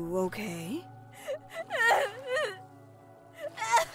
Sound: cries

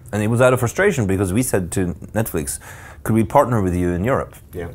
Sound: none

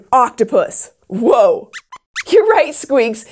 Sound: squeaks squeaks

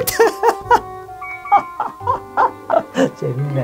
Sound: laughing silently

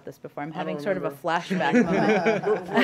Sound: laughter

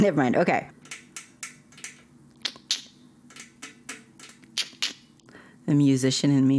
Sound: tapping desk

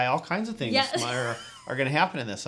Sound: laughs

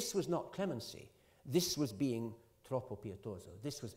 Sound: italian

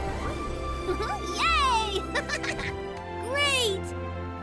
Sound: laughs

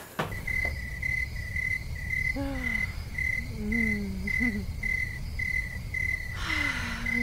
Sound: crickets chirping; moaning

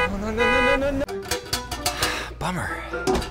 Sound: metal clinking; sighs

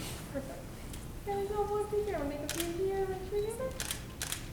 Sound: camera clicks

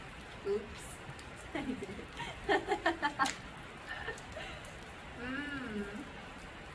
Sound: laughs

